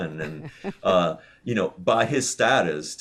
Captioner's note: laughs